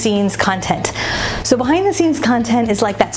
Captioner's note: air whooshing